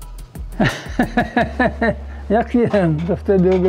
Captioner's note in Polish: laughter